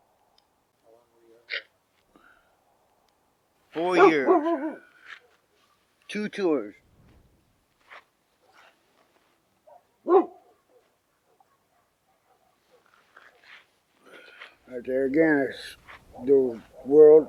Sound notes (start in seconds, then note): 9.6 dog barking